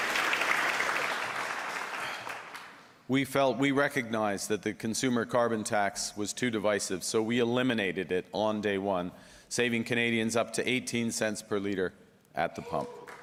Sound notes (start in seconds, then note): 3.1 applause